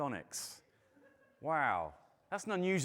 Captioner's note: audience laughing